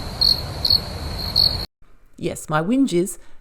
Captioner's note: crickets